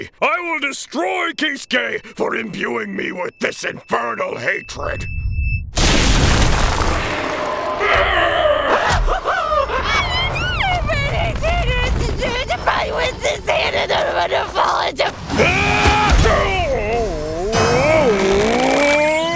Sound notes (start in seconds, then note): 6.7 weird scream; 7.3 roars